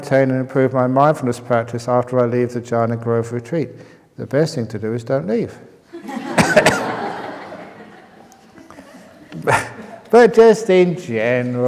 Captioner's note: laughter